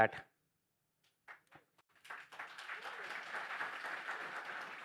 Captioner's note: applause